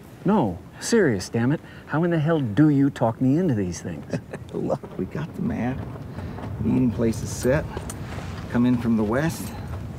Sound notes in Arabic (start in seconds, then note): 3.9 يضحك